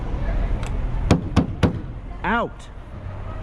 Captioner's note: slap slap slap